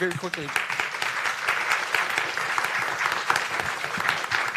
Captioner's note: applause